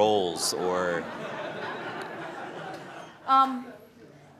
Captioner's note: laughter